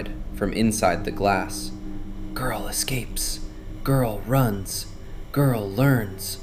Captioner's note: whispering; sighs